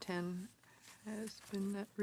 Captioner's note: speaking French